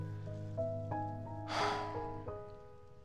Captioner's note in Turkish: Nefes sesi